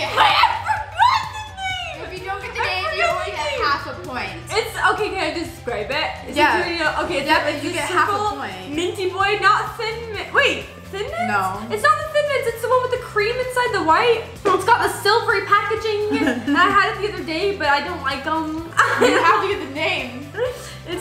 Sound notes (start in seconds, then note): 18.9 laughs